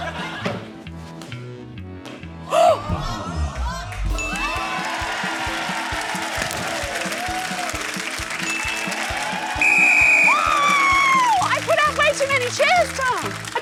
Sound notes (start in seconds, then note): 2.5 gasps; 4.9 cheering, applause; 8.1 blows whistle